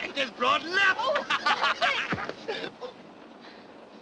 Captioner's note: laughter